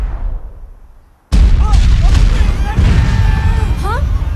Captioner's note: echoing booms